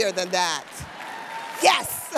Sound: audience cheers

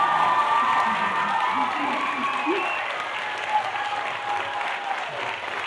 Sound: cheers and applause

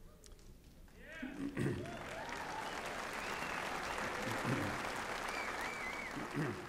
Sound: applause

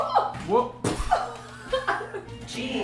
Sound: voiceover; laughing

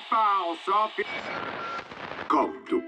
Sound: radio static

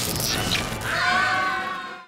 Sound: screaming

